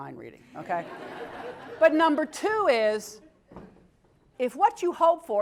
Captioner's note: laugh